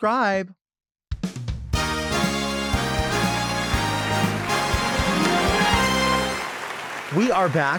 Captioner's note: dramatic music; audience applauds